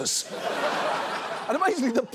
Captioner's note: audience laughs